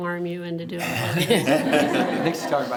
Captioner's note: everyone laughs